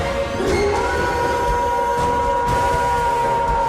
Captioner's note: Eric howls